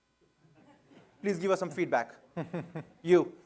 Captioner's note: laughter